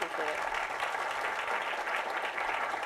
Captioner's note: applause